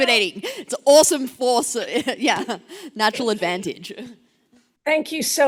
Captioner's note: laughs